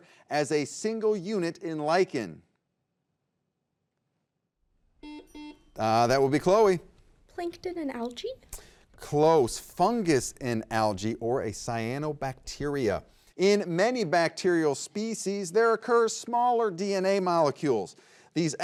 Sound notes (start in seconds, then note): 5.0 buzzer beeps; 5.1 timer chimes